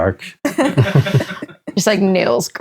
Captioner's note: laughing